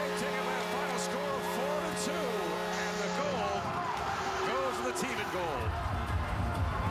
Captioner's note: cheering; horn Blowing